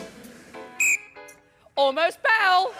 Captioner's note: whistle blows